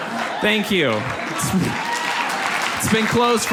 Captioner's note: audience applauds